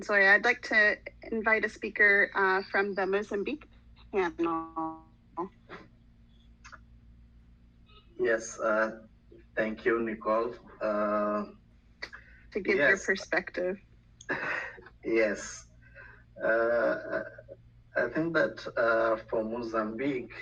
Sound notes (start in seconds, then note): 4.4 radio interference drowns out speaker; 14.2 laughs